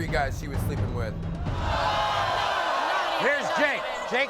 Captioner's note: audience boos